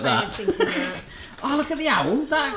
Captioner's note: laughter